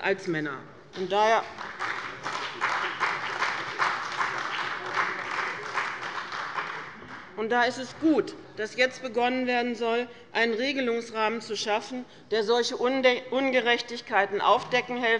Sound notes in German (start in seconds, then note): 0.9 Beifall bei dem BÜNDNIS 90/DIE GRÜNEN und der CDU